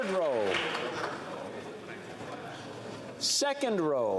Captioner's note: applause